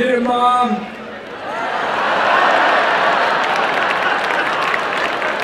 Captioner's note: laughter and cheering; applause and cheering